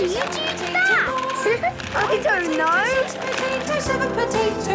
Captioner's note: laughing